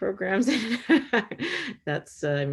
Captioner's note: laughs